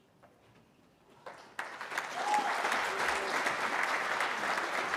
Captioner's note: applause